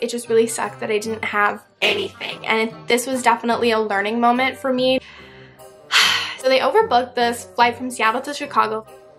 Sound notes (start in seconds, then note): 5.9 sigh